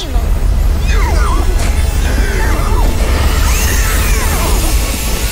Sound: whinnying

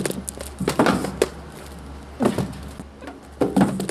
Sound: books banging

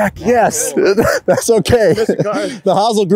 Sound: chuckles

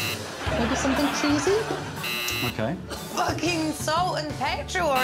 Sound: buzzer rings

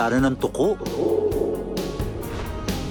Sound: echoing

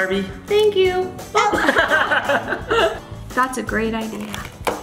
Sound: laughter

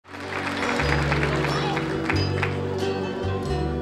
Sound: audience applauds; mellow music

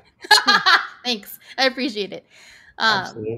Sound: laughs

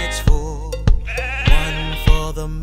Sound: sheep bleats

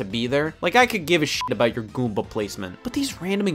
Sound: beep

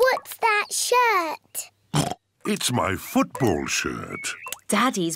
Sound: oinks; oinks

